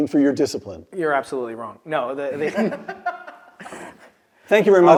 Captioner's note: laugh